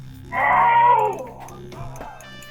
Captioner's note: screams